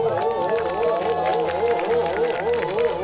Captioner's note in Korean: 와아